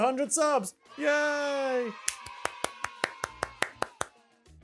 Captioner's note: clapping